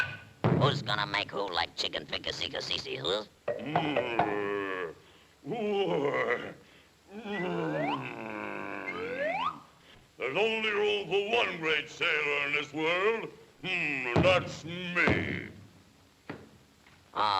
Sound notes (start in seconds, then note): 0.1 foot thuds; 3.5 fists tapping; 3.6 Sinbad grumbling; 5.8 muscles whistling; 7.1 Sinbad grunting; 14.2 fists thud